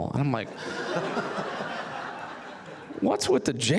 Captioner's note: audience laughs